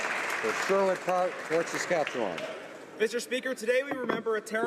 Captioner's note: some Applause